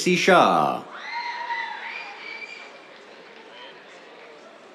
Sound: cheers, applause

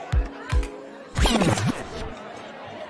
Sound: record scratching effect

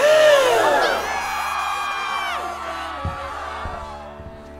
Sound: crowd gasps and screams

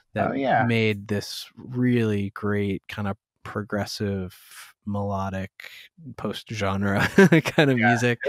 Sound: laughter

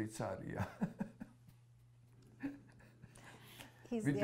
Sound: non-english; laughs

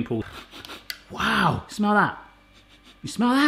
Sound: sniffs

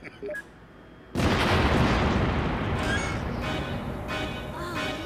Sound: explosions

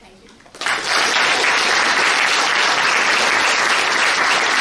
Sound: claps

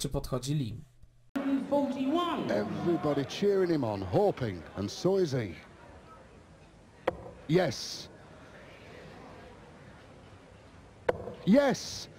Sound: background english commentary

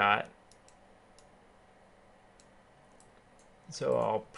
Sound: keyboarding

